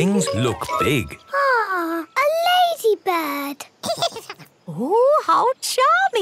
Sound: giggles

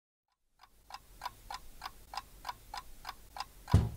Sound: clock ticking

